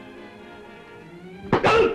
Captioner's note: thump